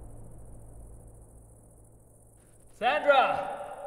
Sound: insects chirping

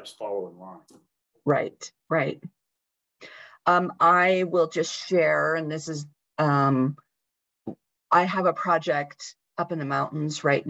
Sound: talking

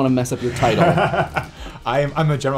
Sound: laughs

